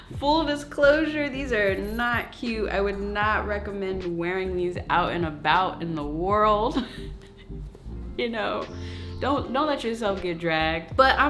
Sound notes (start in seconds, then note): 6.8 chuckling